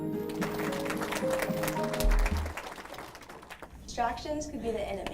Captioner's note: audience applause